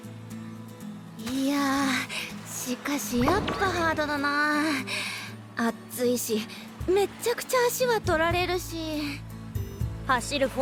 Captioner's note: sigh